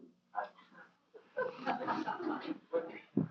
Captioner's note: laughter